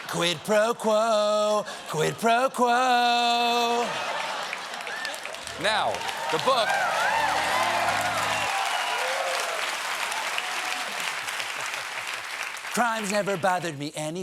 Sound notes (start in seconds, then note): 7.9 applause